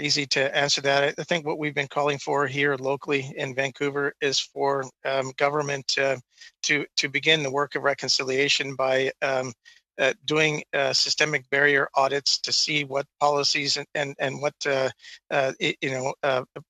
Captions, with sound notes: MICROPHONE. [ Speaking French ] I WANT TO SAY THAT THAT'S A REALLY TOUGH QUESTION. IT'S NOT EASY TO ANSWER THAT. I THINK WHAT WE'VE BEEN CALLING FOR HERE LOCALLY IN VANCOUVER IS FOR GOVERNMENT TO BEGIN THE WORK OF RECONCILIATION BY DOING SYSTEMIC BARRIER AUDITS TO SEE